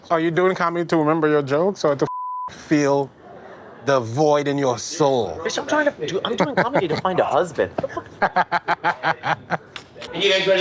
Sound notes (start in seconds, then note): 2.0 beep; 7.8 laughs